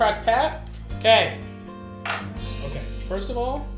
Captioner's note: knife clanking